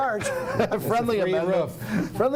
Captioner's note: laughter